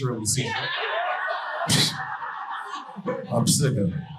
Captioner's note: audience laughing